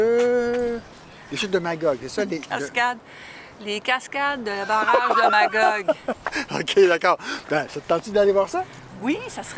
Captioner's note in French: rire